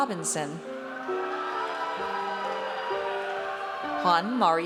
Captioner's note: audience cheers